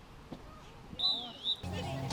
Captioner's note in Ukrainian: свисток